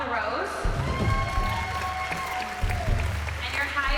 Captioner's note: cheering